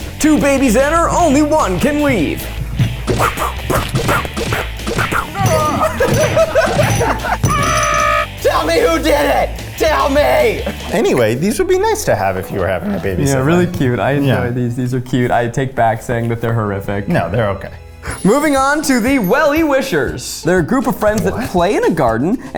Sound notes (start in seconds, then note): 3.0 punching sound effects play; 5.2 laughs